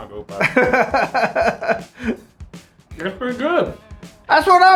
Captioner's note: laughs